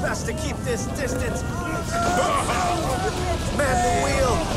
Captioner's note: sailors gasp